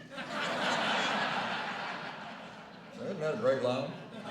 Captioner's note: laughter